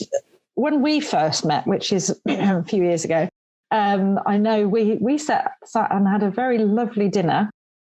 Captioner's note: coughs